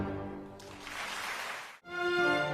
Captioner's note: clapclapclapclap